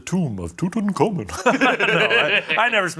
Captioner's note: laugh